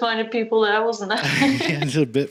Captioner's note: laughs